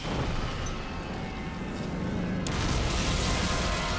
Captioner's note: jet crashing